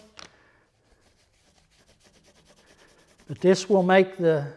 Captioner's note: rag rubs